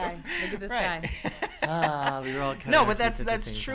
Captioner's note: laughter